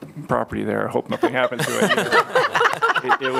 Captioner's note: laughter